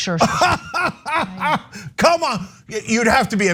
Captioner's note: laugh